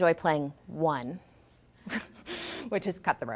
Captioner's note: laughs